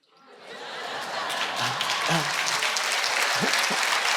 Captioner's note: audience cheering